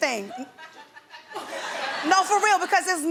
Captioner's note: audience laughs